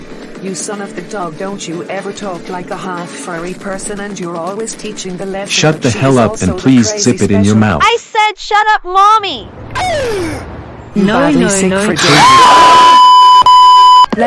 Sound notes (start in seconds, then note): 9.9 Shelbie's Mother Gasp; 12.0 Troublemakers Gasping